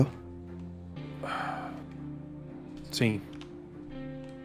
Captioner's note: sighs